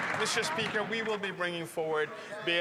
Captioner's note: some Applause